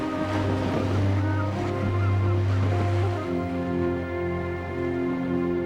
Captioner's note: seagulls Calling, Waves Crashing